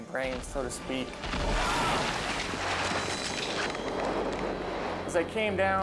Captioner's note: screams